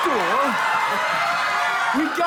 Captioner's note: laughter and applause